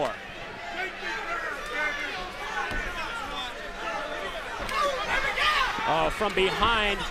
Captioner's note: crowd chatter